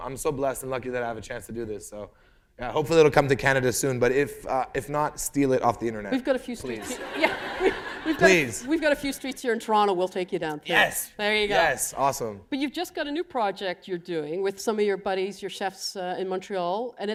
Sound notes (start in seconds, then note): 6.6 laughter